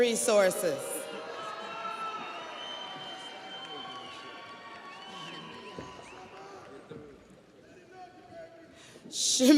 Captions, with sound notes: Summer Jordan, Human Resources. (audience applauds) (audience cheers)